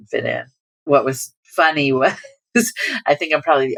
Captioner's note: laughter